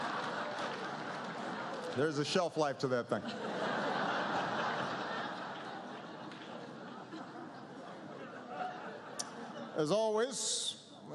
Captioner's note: laughter